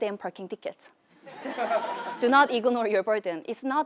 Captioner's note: laugh